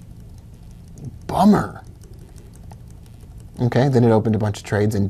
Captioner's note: clicking